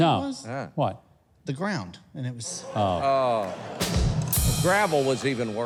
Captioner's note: audience laughing